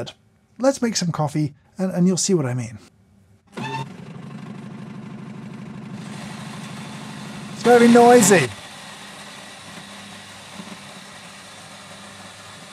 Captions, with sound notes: Let's make some coffee and you'll see what I mean. (coffee machine rumbling) It's very noisy. (coffee machine whirring)